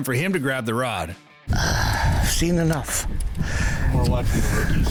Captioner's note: grunts